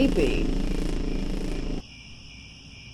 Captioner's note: crickets